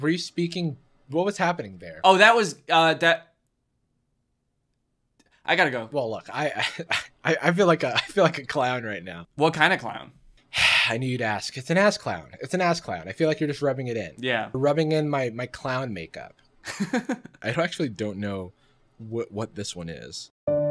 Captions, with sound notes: were you speaking? What was happening there? - Oh, that was that... I gotta go. - Well look, I feel like a clown right now. - What kind of clown? - I knew you'd ask. It's an assclown. It's an assclown. I feel like you're just rubbing it in. - Yeah. - Rubbing in my clown makeup. (laughs) I really actually don't know what this one is.